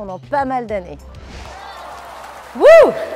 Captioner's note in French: applaudissements